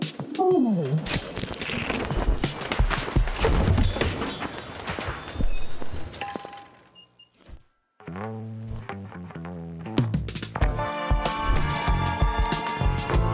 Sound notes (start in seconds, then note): 0.1 shutter closes; 4.4 projector stops